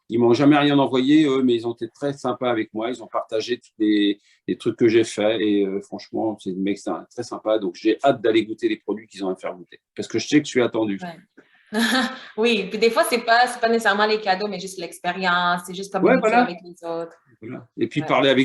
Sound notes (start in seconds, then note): 11.8 laughter